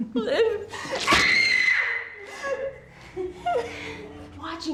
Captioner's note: screaming; crying